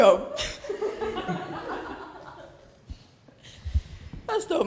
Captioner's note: laughter